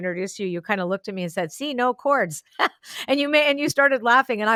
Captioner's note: laughs